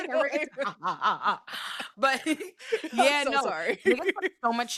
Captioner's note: laughing